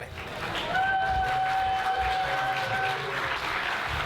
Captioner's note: audience cheers